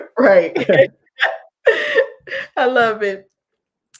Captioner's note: laughs